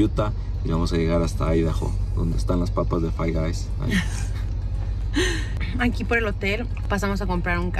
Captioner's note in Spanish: risas